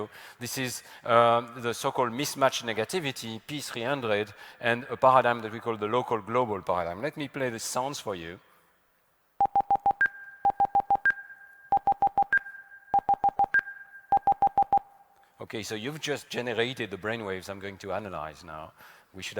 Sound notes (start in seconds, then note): 9.4 series of beeps